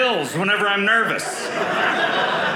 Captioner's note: audience laughing